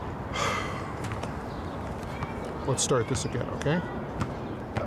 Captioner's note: sighs